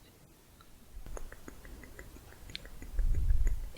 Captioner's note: tongue clicking